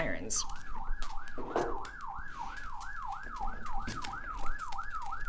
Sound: sirens playing

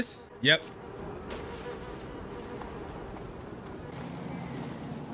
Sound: flies buzzing

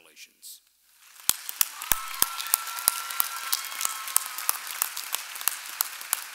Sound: audience applauding and cheering

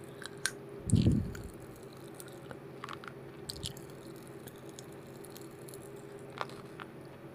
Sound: crunch crunch; popping candy pops sound

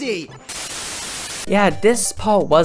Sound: static

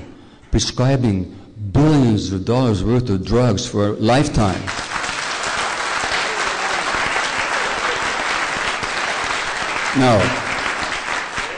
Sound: applause

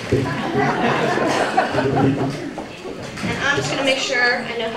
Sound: laughter

